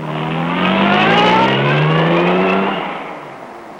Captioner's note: engine rumbles